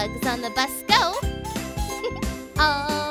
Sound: ladybug buzzes

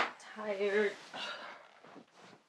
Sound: she gasps; furniture rustling

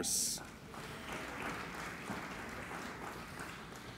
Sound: applauding

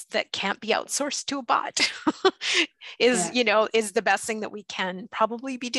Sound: laughs

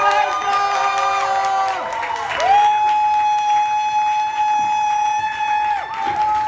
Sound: people cheering and applauding

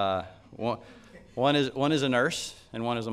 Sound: laughs

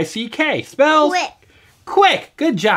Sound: voiceover

